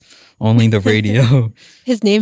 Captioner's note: laughs